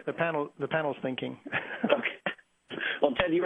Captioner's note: laughing